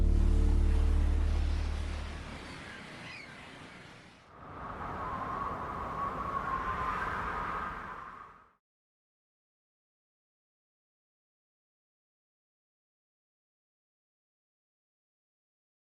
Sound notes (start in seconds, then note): 0.4 ocean noises; 4.3 ethereal sounds